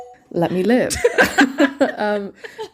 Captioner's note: bingbong